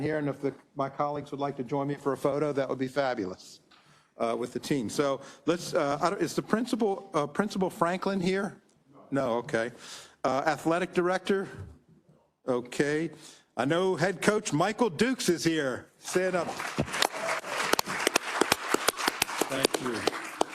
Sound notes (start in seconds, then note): 16.1 applause